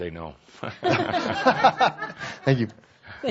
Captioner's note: laughter